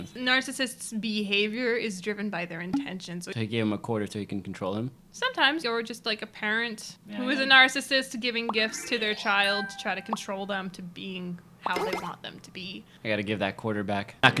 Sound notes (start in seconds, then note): none